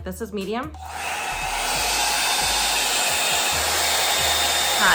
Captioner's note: dryer whirring